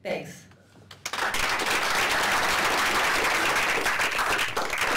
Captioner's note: applause